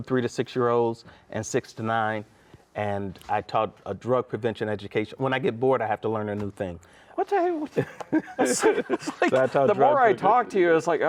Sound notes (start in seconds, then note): 7.7 both laughs